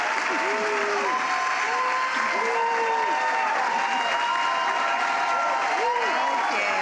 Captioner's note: applause